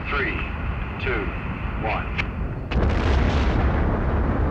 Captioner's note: man On Radio